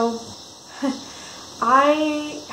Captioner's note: soft chuckle